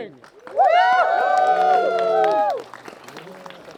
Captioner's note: cheering